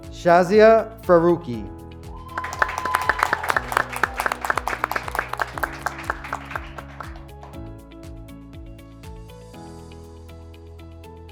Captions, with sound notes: Shazia Faruqi. (graduates clapping) (graduates cheering)